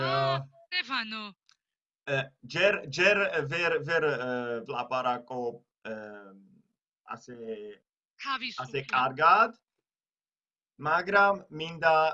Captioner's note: in German; in Georgian